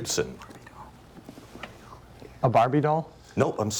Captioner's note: students whispering